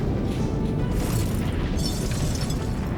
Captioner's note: glass breaking